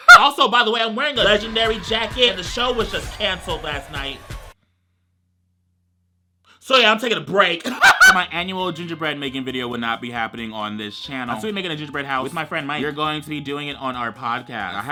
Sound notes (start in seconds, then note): 7.6 laughs